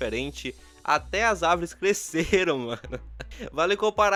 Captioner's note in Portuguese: risos